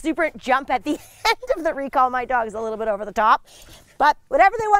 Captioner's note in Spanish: risas